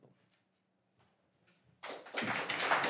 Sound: applause

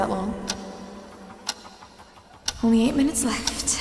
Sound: clock ticking

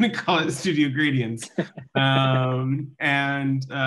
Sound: laughing

